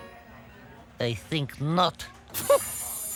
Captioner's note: scoffs